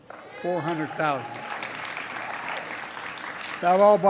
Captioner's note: applause